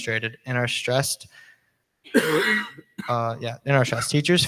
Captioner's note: person coughs